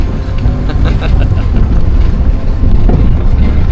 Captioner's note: laugh